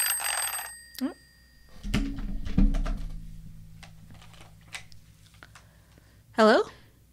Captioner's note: phone ringing